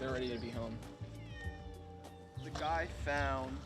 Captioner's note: cat meows